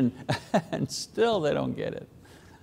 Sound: laughs

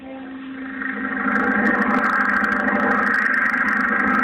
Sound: biplane propeller noises

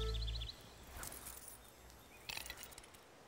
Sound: coins jingle, drop

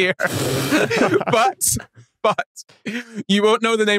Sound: group laughing

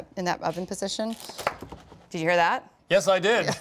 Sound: crust crunches

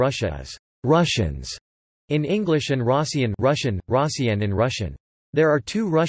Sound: Russian: россияне

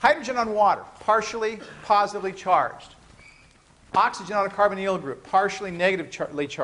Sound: rustling noises

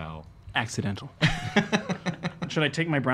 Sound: laughing

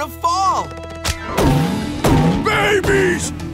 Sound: thumping

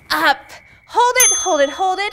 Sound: timer dings

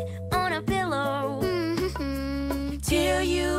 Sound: humming

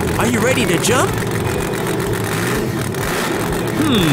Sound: engine revving sound

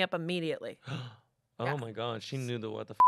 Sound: gasps; beep

